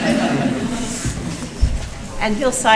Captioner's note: laughter